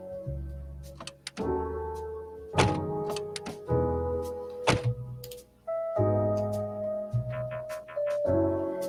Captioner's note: two car doors open and close